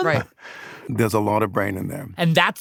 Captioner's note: laughs